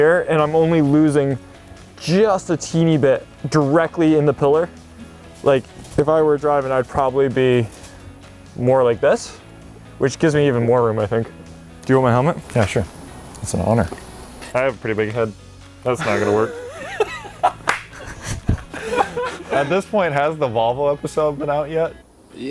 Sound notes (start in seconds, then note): 16.0 laughing